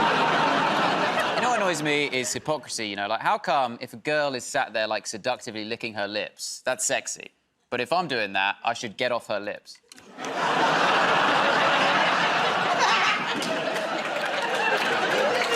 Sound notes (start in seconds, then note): 12.1 laughter